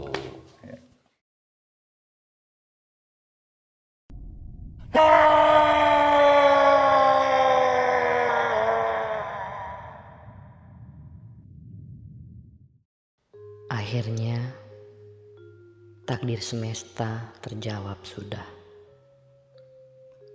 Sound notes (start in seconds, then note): 4.9 roar